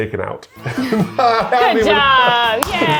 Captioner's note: crowd cheers